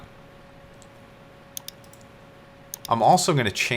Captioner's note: mouse clicking